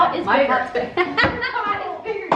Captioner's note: laughs